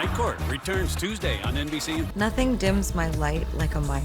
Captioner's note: laughter